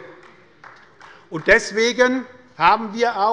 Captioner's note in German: Beifall des Abg